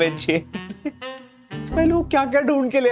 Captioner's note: chuckling